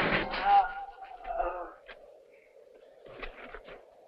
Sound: moaning

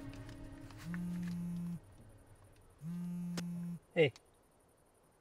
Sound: phone vibrating

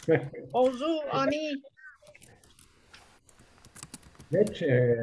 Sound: speaking in foreign language

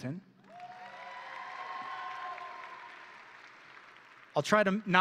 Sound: audience and graduates cheering

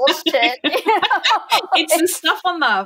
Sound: both laughing

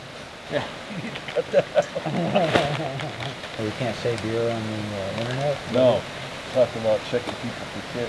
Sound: laughing

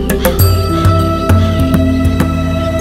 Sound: crow cawing

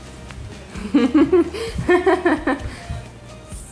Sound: laughs

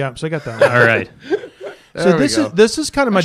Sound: laughter

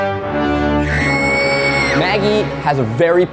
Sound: dramatic horror music; screaming

